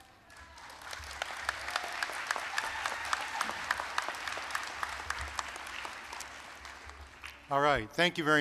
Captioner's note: applause